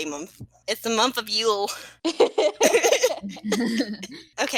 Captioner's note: small laughter